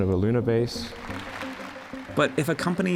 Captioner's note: crowd applause